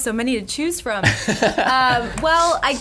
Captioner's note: laughs